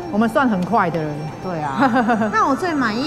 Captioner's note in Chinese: 哈哈哈